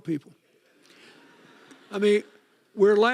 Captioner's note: audience laughing